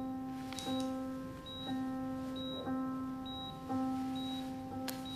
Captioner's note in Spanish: Sonido de telemetría